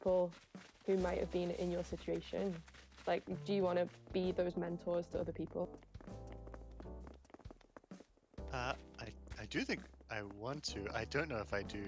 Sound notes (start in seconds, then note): none